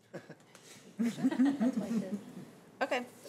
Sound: trustees chattering and giggling

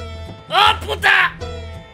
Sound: yells in Spanish

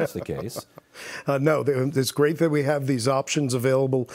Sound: laughs

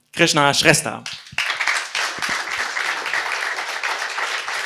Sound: applause

